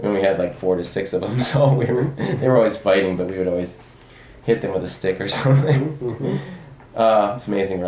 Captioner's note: laughs